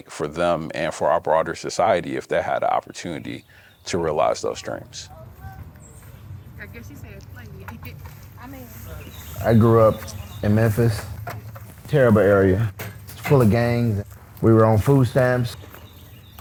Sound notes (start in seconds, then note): 5.6 birds chirping; 5.6 children chattering; 8.9 laughs